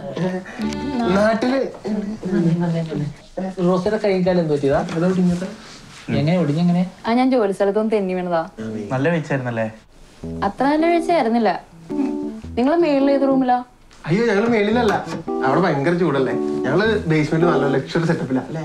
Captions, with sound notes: Back home? Dude, come back here. Rosy what happened to your hand and legs? That is fractured bro! How did it got fractured? I slipped from my workplace! Seems to be a good slip, isn't it? Not that good enough! (sarcastically) Which upper room are you guys staying in? Its hot upstairs right? So we took the luxury basement which is cool.